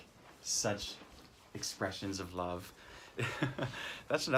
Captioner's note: chuckles